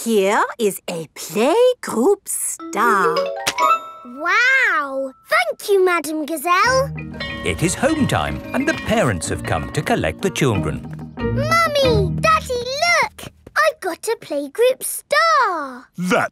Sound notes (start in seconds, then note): 7.1 bell tolling